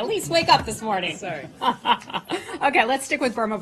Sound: laughter

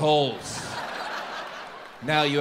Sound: audience laughs

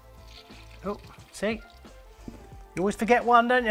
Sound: water squirts

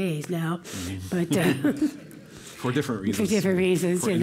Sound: laugh

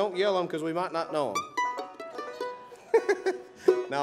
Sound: laughs

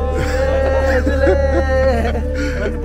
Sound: laughing

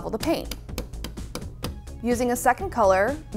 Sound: tapping

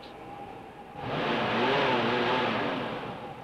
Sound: engine revving

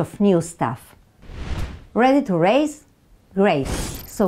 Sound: slide whooshes; graphics whoosh

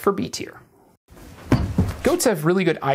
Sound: thump

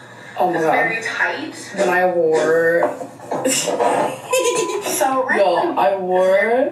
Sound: giggles

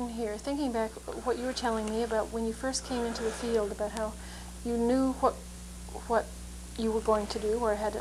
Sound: laughs

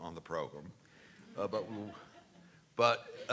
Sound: laughs

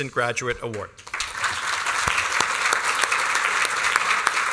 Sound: applause

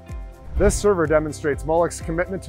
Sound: screen whooshing

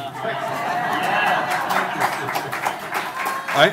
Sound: audience laughing and applauding

